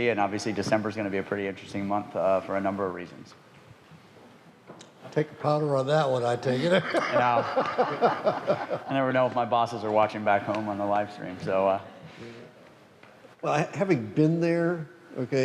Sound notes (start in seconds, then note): 6.6 laughs